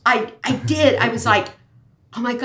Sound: laughs

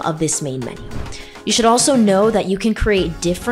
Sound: swoosh

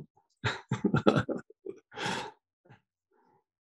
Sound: laughs

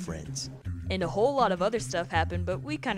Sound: voiceover

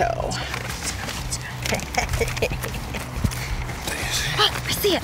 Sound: laughs

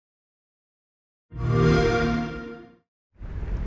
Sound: xbox sound

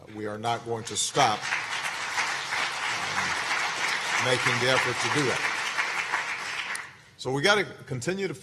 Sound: applause

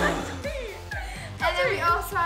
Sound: canned gasp

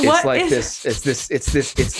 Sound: laughing

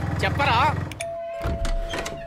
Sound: door bell rings

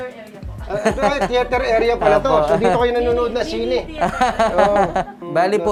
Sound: laugh

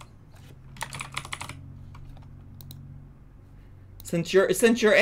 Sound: keyboard clicks

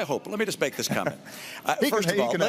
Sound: chuckles

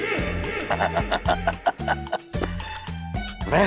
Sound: laughing

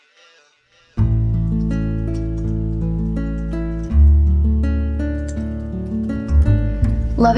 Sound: typing

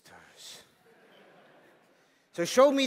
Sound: laughter

